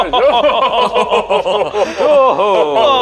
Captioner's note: all laughing